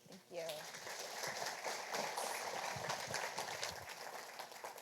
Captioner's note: audience applauding